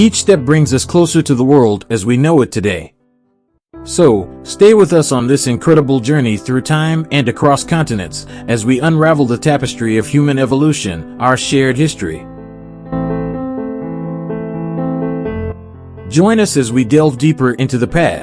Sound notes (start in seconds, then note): 13.4 voiceover